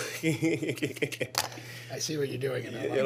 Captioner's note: laughs